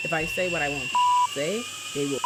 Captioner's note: beep